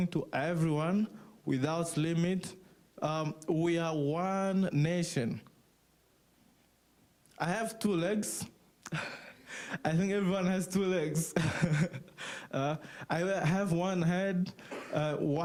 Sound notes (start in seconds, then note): 9.0 laughs; 11.4 laughs